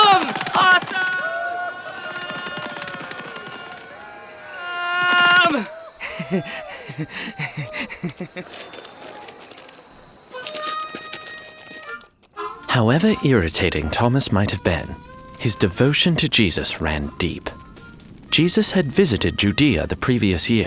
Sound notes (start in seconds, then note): 0.0 echoing; 0.0 footsteps pattering; 5.4 Thomas laughing; 8.7 crickets chirping; 8.7 footsteps pattering; 11.1 fire crackling; 11.1 harmonica music